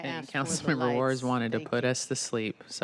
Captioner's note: laughter